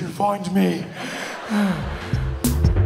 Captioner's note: breathing heavily